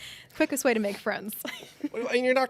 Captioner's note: chuckles